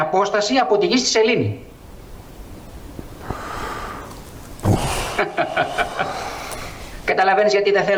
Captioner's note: prolonged excitement